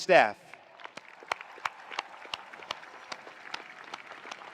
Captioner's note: attendees applauding